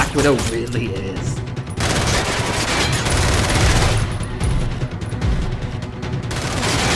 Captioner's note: dramatic music; gunfire